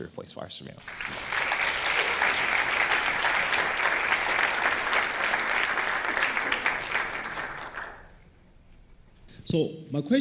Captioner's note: applause